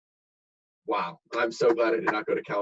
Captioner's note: hands clapping